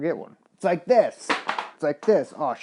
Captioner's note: clattering